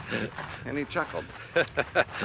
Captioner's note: laughs